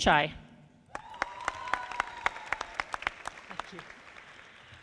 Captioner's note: audience applauding